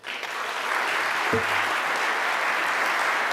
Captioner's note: applause